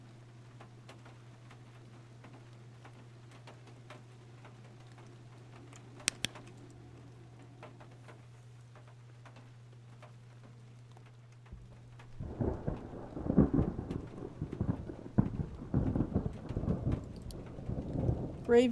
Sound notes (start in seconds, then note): 6.0 flashlight Clicks Off; 11.6 thunder Rumbling